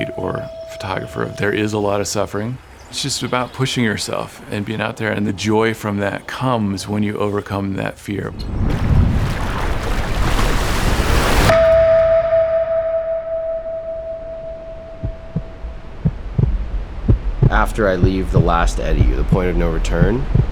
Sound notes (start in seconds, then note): 8.3 water whooshing; 11.5 musical tone rings